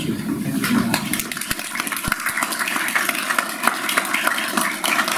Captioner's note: audience applauds